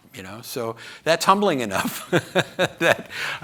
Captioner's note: laughs